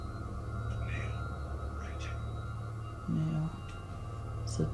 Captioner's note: disembodied voice